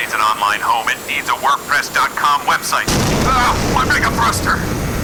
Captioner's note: explosion outside